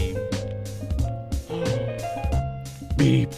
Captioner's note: gasp